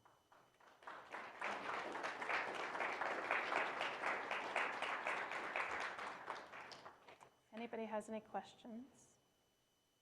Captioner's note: applause